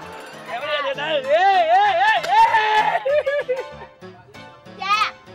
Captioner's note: laughing